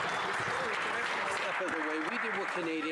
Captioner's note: some Applause